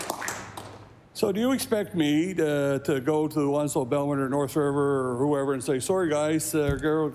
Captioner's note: applause